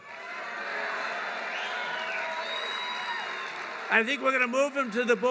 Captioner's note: applause